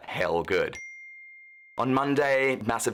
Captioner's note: dings